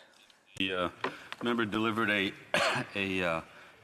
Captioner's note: speaking French